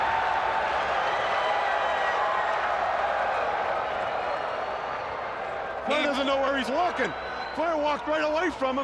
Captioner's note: crowd cheering